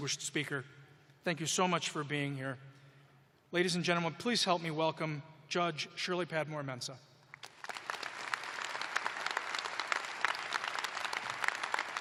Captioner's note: applause